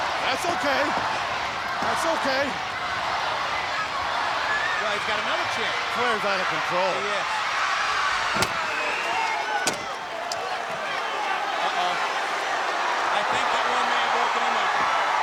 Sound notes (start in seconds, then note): 0.0 crowd cheering; 2.6 crowd cheering; 8.1 chair thudding and snapping